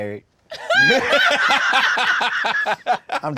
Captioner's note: laughter